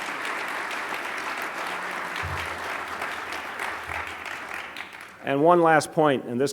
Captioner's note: applause